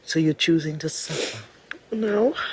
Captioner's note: sniffles